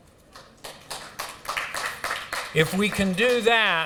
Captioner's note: applause